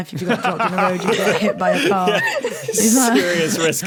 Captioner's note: group laughing